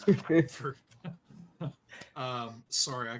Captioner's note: laughs